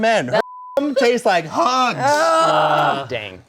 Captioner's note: beep